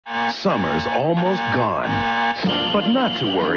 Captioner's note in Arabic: إنذار